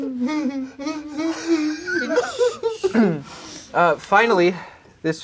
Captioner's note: crowd laughing